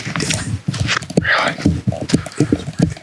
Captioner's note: whispers